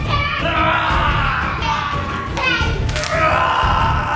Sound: screams

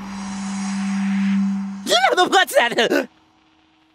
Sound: shrieking

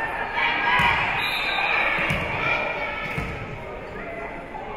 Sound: whistle being blown

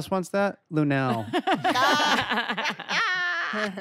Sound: laughter

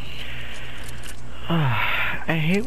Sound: sigh

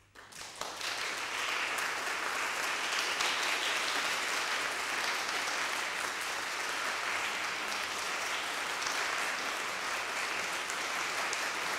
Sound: applause

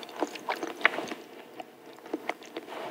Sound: chewing

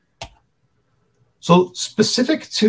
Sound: switch clicks

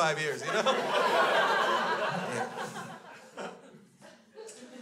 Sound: crowd laughs

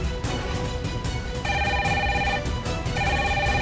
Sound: phone ringing

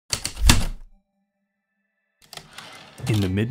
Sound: heavy typewriter keystrokes and slide return

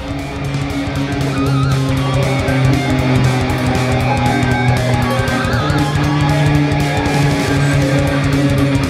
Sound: airplane noise

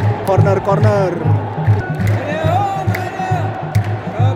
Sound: clap

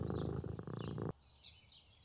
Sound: purring

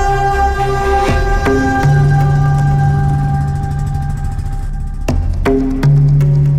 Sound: bike engine sound

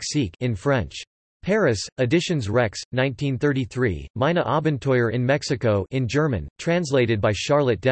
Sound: in German

